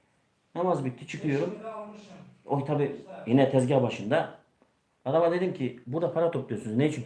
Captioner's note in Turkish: homurdanır